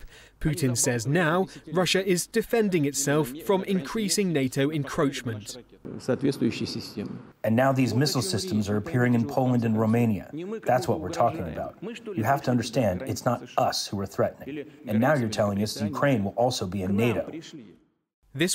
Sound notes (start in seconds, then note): 6.0 through translator